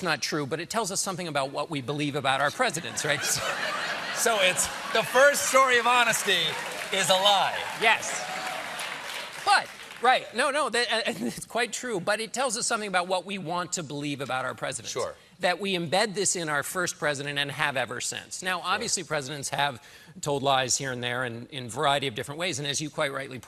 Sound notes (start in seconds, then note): 9.6 applause